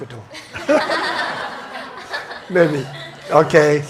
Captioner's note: audience laughs